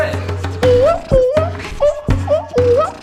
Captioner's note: beatboxing